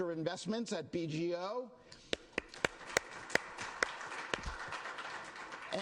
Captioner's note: applause